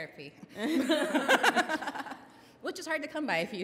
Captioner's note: laughs